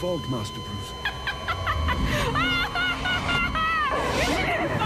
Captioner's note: laughing